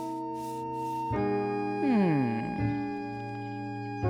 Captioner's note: laughing